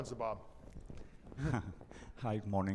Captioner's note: chuckling